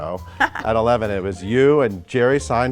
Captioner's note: Sandra laughs